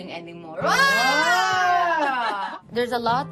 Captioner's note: all exclaim